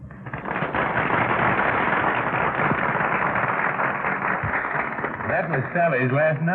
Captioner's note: applause